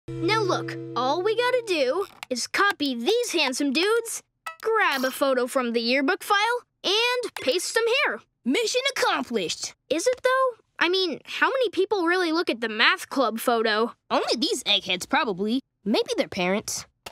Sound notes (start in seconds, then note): none